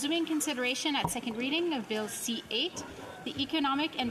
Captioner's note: speaking French